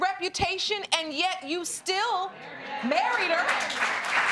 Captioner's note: audience applauding